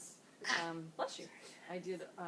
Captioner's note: sneezes